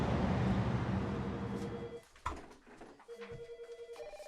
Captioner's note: phone ringing